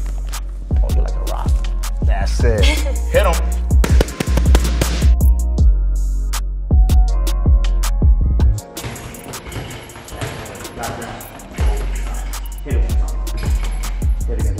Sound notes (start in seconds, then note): 2.6 Debbie laughs; 3.8 Debbie hitting punch mitts; 5.5 bouncy music; 10.4 Debbie hitting speed bag drowns out speech